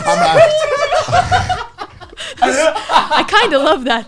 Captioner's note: laughs